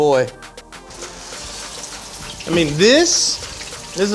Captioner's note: water running